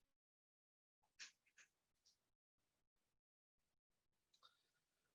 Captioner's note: silence